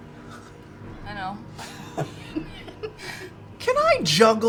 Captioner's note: laughter